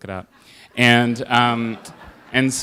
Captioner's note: laughter